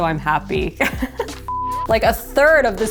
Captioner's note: laughing